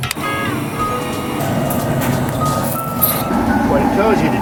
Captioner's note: propane hissing